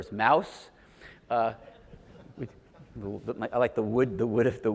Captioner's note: audience laughs